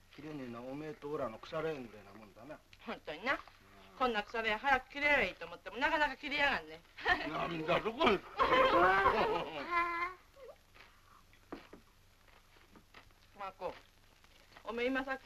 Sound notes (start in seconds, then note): 8.1 laughs!